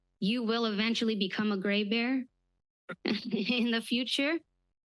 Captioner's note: chuckle